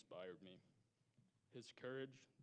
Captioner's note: none